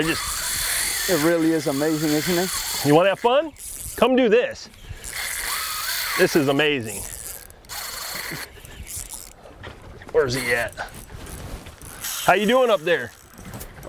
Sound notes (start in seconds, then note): 0.0 reel zipping loudly; 4.6 reel zipping